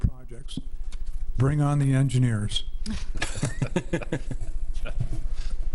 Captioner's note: laughs